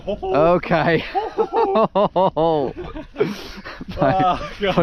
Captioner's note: both laughing